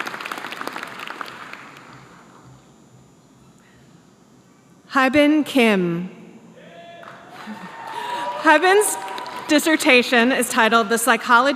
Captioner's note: applause